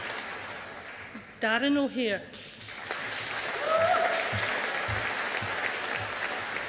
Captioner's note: audience applauding